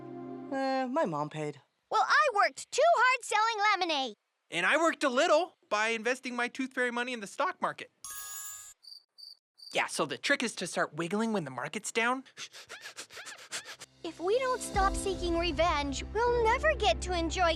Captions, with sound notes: - My mom paid. - Well, I worked too hard selling lemonade. - And I worked a little, by investing my tooth fairy money in the stock market. (crickets chirping) Yeah, so the trick is to start wiggling when the market's down. - If we don't stop seeking revenge, we'll never get to enjoy camp.